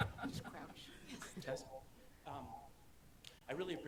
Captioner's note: laughing